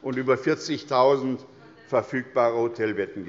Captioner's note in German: none